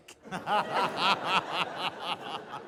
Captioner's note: laughter